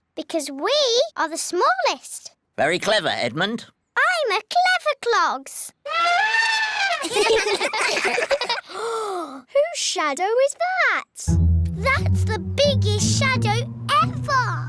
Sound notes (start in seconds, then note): 5.8 trumpets; 6.8 all giggle; 8.6 gasps